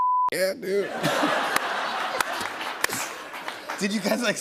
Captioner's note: laughter